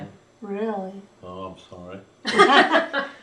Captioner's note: laughter